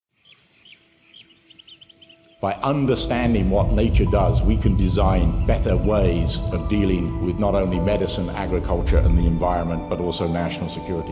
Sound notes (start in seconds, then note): 0.0 nature sounds